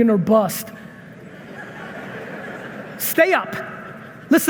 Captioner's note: audience laughing